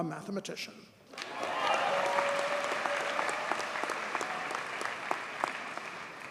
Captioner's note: audience cheers and applauds